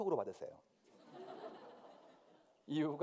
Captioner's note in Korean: 웃음